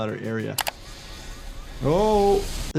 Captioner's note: sea waves rumbling